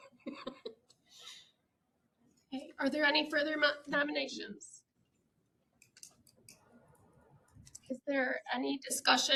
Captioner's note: laughter